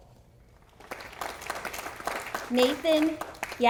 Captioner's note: audience applauding